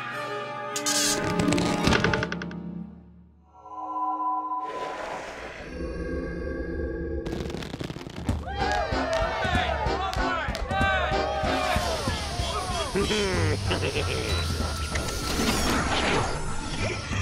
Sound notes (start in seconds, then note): 8.5 cheers and laughter; 12.8 chuckles